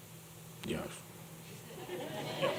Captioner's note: laughter